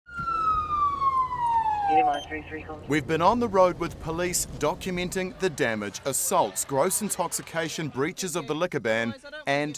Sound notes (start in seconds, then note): 0.1 sirens and police scanner noise